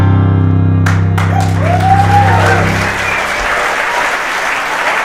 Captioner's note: audience applauding